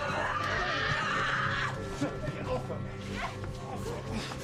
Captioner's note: screams